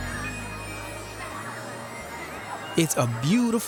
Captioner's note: children chattering